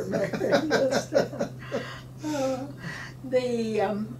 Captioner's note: laughing